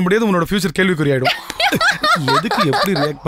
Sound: laughs

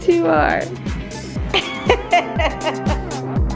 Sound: laughs

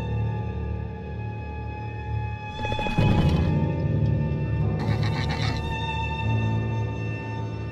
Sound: Scorpius Rex growls; eerie Music

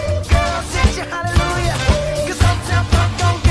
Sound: whoo

